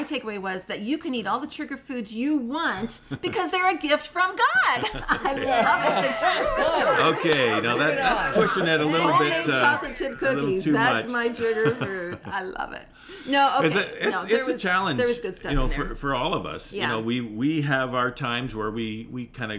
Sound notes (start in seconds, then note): 5.3 laughter; 5.5 cheering